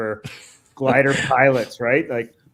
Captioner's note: laughs